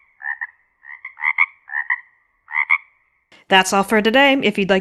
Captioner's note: frogs croaking